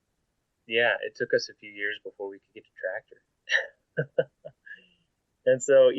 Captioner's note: laughing